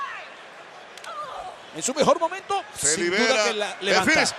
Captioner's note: applause